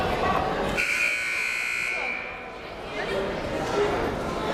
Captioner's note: buzzer blares